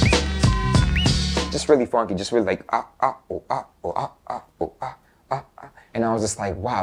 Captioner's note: mouth scratch